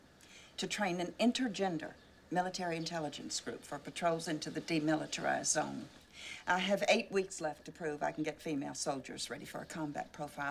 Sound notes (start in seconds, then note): none